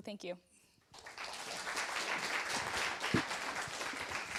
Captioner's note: applause